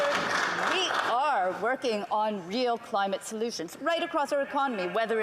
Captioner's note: some Applause